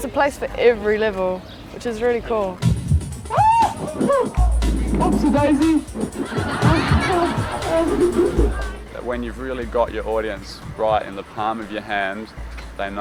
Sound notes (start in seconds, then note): 3.2 screams; 5.6 audience laughing